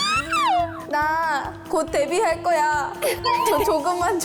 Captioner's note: choked up